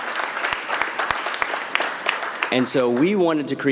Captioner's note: cheers and applause